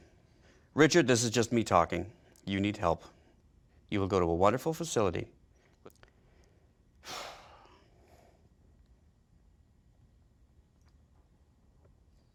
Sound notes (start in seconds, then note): 7.0 sighs